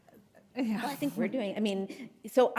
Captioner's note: chuckles